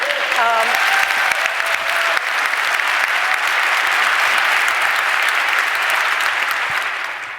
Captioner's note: applause